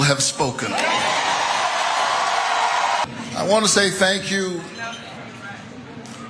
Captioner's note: applause